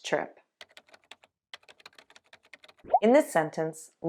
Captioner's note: typing